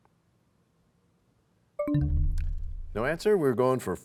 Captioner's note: bell chimes, time expires